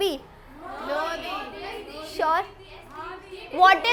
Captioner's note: students disagreeing